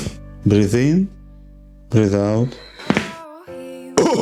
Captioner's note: crunches of bones; laugh